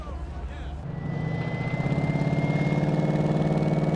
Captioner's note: engine revving